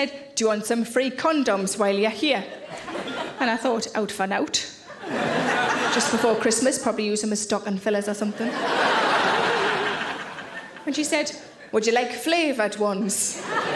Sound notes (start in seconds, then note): 8.3 audience laughing